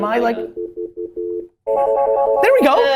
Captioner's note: phone rings; dial tone